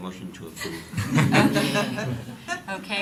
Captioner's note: laughter